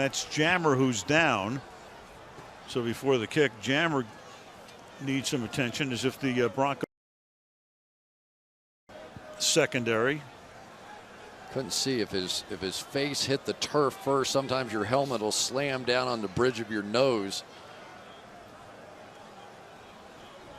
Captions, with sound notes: And that's Jammer who's down. So before the kick, Jammer needs some attention as if the Broncos [audio out] secondary. Couldn't see if his face hit the turf first. Sometimes your helmet will slam down on the bridge of your nose.